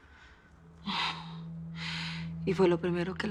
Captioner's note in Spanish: Suspiros